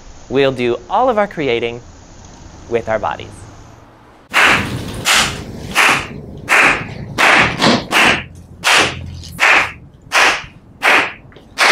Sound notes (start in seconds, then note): 4.4 rhythmic clapping; 4.4 rhythmic stomping